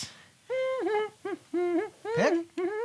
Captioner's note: Pickles hums Christmas carols